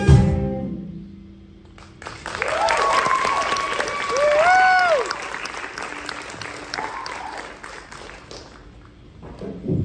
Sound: applause

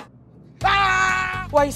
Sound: screaming

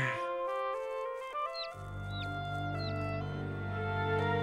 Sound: Peter sighs; birds chirping

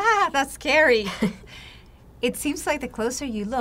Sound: laughs

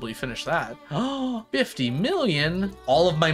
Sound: gasps

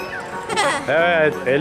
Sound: laughter

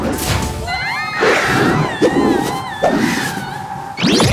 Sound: screaming

